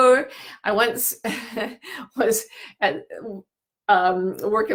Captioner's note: laughing